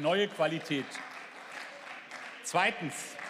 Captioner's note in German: Beifall